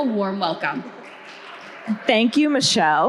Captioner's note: audience cheering